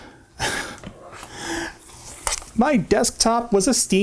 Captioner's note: chuckle